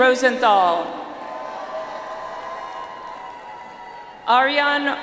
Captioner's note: audience applauds